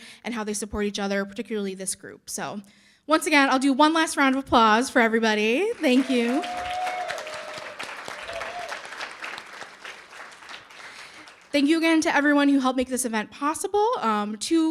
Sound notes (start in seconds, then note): 5.7 audience cheering and applauding